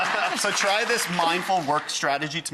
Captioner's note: laughing; audience clapping